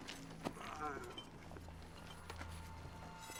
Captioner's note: groaning